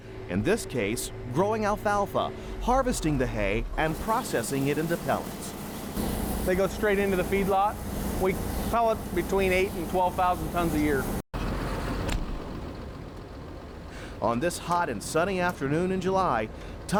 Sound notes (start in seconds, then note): 11.2 engine rumbling